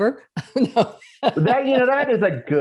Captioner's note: laughing